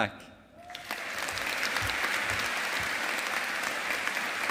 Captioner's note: audience applauding